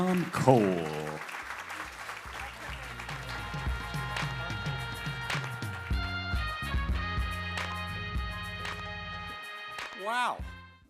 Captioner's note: applause